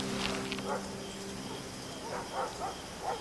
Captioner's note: distant barking of dog